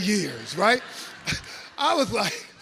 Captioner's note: audience laughs